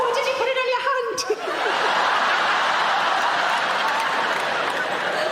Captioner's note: audience laughing